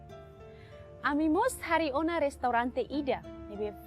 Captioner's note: non-english speech